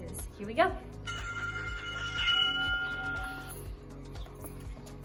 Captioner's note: bell rings